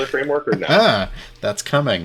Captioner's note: laughing